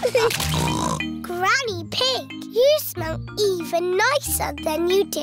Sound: snorts

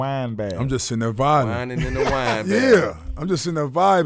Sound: laughing

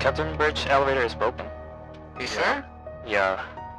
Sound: on the radio

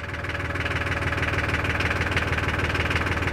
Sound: rattling

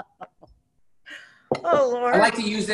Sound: laughter

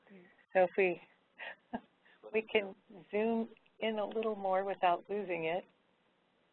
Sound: laughter

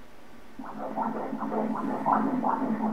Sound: heartbeat

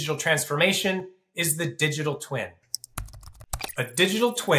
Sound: keys clicking

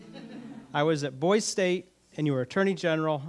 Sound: audience laughter

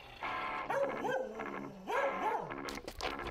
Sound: another dog barks in Bulgarian

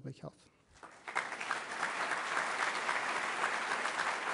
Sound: applause

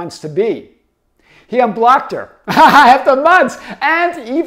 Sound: laughs

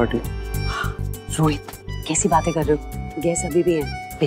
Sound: gasps

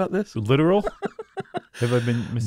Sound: laughter

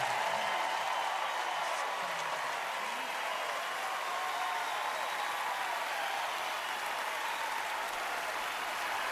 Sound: cheering, applause

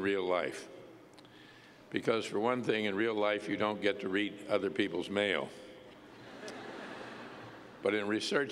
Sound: laughter

